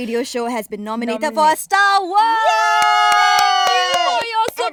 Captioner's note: cheering